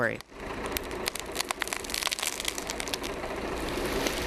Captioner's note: tree cracking